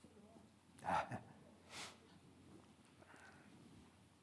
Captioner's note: chuckles